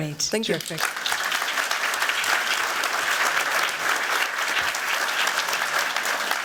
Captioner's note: applause